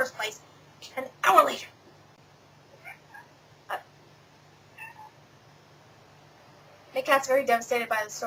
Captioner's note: meow in background